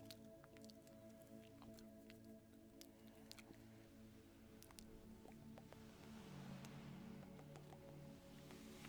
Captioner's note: tongue Clicking